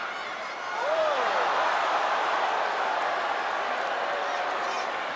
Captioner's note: audience exclaiming